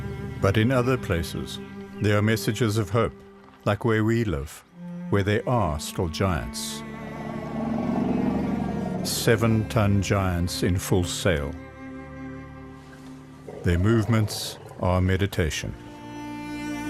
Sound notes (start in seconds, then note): 6.8 elephant rumbles; 14.4 animals calling